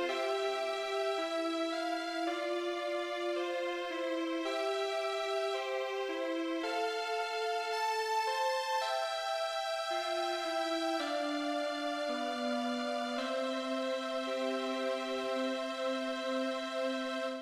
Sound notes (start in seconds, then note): none